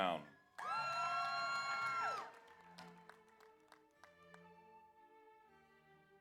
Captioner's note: audience applauds; audience cheers